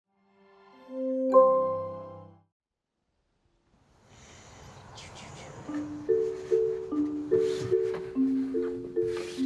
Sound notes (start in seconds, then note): 1.3 chime ringing; 4.0 birds chirping; 5.7 bright music; 7.7 hands whooshing